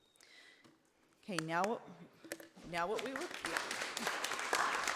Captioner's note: audience applauding